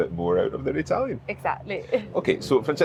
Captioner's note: chuckles